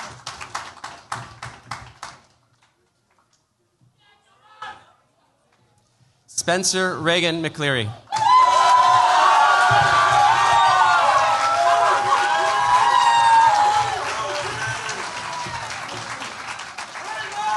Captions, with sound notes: Spencer Reagan McCleery. [CHEERS, APPLAUSE]